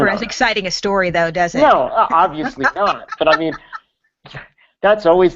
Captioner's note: laughs